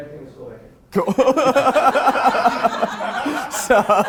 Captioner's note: all laughing